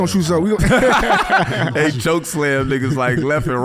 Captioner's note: everybody laughing